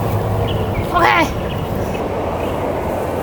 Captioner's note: excited guttural voice